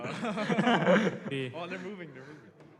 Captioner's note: laughter